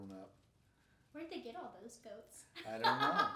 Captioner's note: laughing